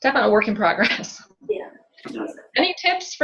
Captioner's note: chuckles